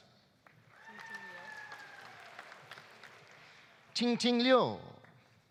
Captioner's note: audience applauding; audience cheering